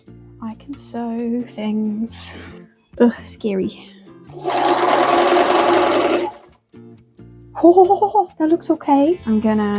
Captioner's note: sings; sewing machine noises